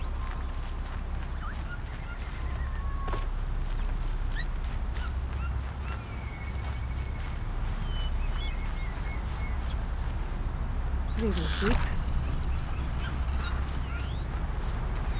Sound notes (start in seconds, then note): 1.5 birds chirping